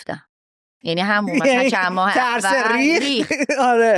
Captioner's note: laughs